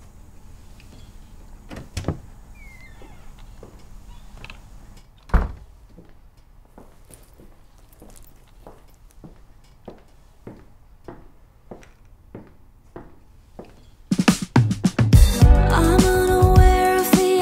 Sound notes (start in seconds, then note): 2.4 door opens; 6.6 footsteps